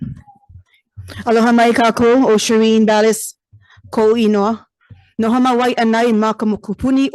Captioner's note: speaks in foreign language